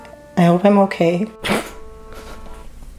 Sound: burst of laughter

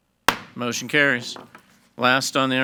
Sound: gavel thuds

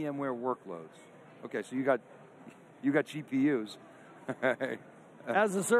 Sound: laughs

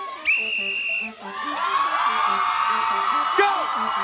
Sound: audience cheering

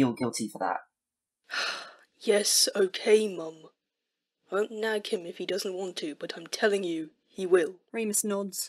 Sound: James huffs

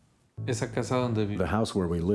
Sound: migrant worker speaking in spanish

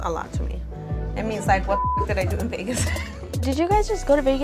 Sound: beeping

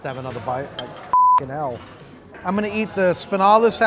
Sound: beep

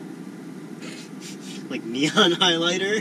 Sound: laughter

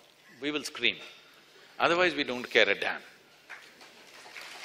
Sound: applause

